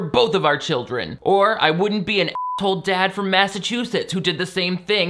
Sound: beep

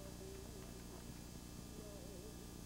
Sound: none

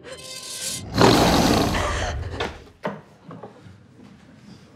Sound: faint growling; snarling; Thale gasps

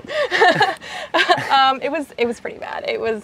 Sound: laughs

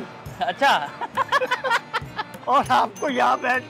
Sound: laugh

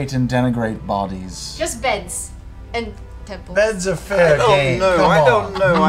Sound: laughs

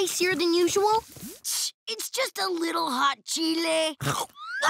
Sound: scoffs

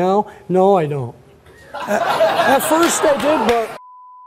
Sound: audience laughs

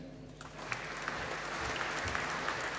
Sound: applause

